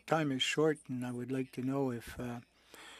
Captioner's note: speaking French